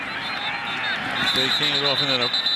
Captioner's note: whistle